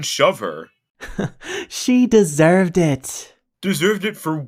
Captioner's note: scoffs